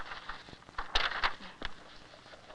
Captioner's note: pages fluttering